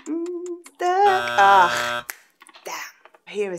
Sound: buzzer

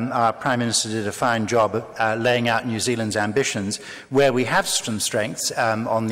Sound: none

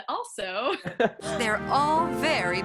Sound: laughing

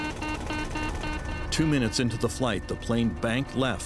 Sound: beeping alarm

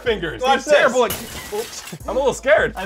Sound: crashing noise

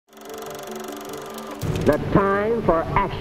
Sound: film roll rattling

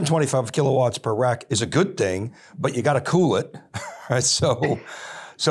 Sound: chuckles

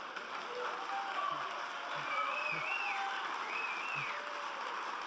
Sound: applauding and cheering

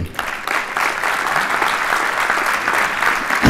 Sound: applause

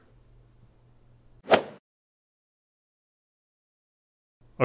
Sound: golf swing sound effect

